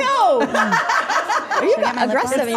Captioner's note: group laughing